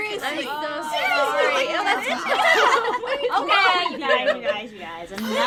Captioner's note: laughing